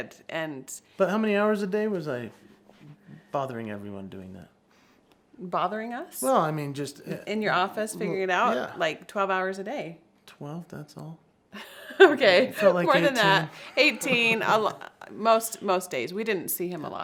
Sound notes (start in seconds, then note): 11.6 laughs